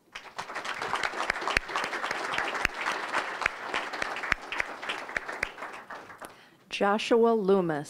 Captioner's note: applause